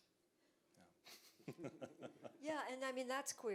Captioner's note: laughs